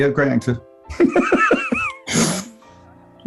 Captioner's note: laughing